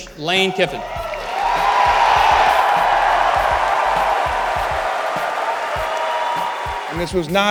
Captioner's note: crowd cheering